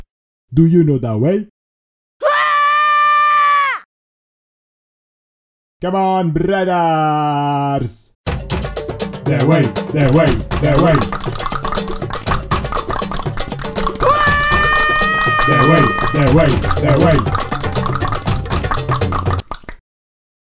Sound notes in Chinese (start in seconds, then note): 7.9 召喚bgm再次響起; 16.9 大量彈舌